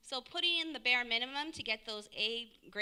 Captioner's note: none